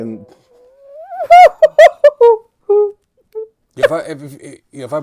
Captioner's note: laughing